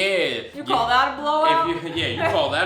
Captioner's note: laughs